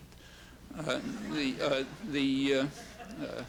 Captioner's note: laughter